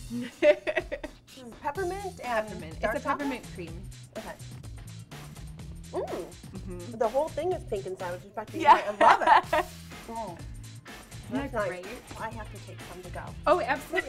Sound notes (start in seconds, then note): 0.1 laughs; 8.7 laughs